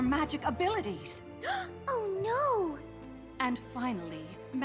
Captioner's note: gasp